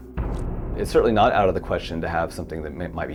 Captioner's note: none